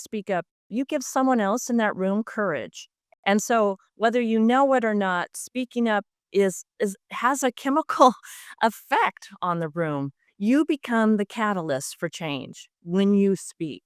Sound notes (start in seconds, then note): none